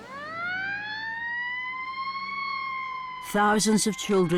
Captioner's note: siren blaring